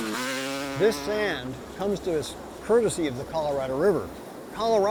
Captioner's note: vehicle sounds